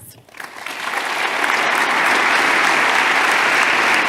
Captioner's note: audience applauding